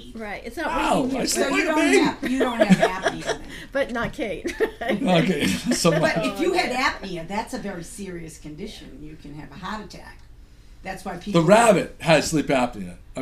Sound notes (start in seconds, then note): 0.4 voiceover; 10.9 voiceover